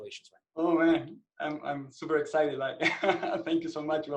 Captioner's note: laughs